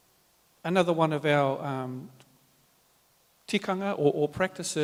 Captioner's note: speaks native language